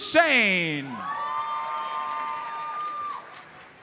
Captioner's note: audience cheers and applauds